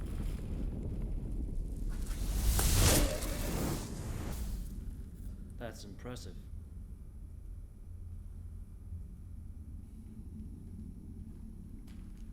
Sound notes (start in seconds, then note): 1.6 whooshing